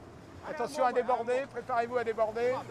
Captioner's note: man speaking French